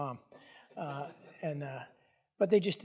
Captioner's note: audience chuckling